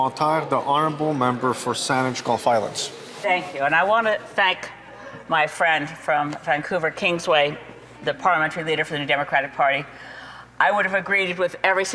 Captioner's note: some Applause